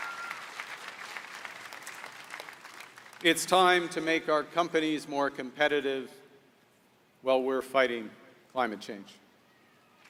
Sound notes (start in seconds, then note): 2.1 applause